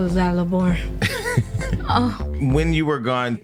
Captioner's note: laughing